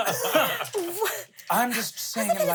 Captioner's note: everyone laughs